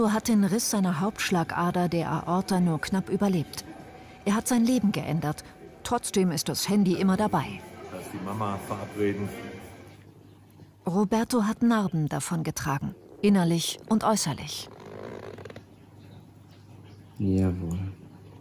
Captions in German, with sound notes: Roberto hat den Riss seiner Hauptschlagader, der Aorta, nur knapp überlebt. Er hat sein Leben geändert. Trotzdem ist das Handy immer dabei. Da ist die Mama, verabreden. Roberto hat Narben davongetragen, innerlich und äußerlich. (Knarrende Geräusche) Jawohl.